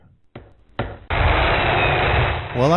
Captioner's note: construction noises